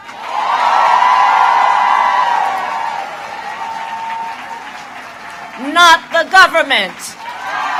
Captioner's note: applause